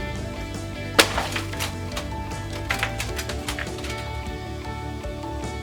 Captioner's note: punching crash and gentle fluttering